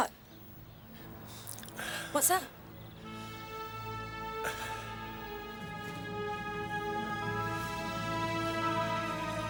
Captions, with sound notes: What? (Andy sighs) What's up? (suspenseful music) (Andy sighs)